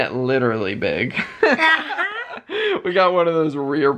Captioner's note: laughter